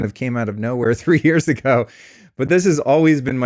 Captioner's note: laughs